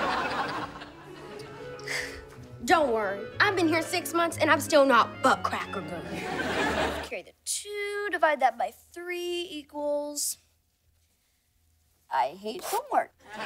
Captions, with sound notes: [sighing] Don't worry, I've been here six months, and I'm still not butt cracker good. Carry the two, divide that by three equals... I hate homework.